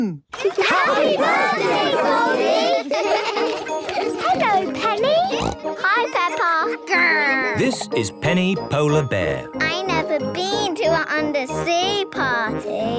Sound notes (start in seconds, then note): 2.6 laughter; 5.2 snorting